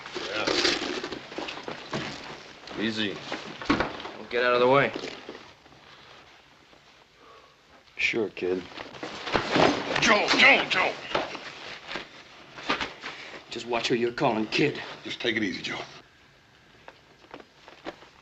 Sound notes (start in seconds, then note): none